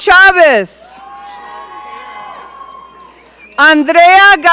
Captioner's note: audience cheering